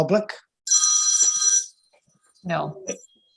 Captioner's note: phone ringing